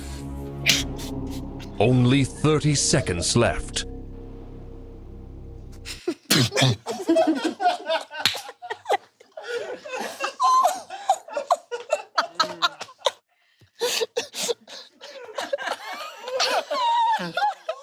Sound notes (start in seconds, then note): 5.7 dramatic music continues; 6.6 people laughing; 9.9 all laughing